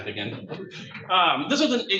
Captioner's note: crowd light laughs